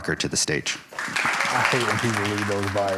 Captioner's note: audience applauding